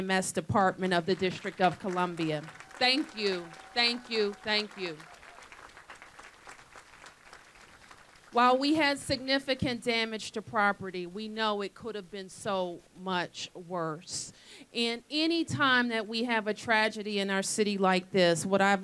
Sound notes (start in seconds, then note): 4.0 applause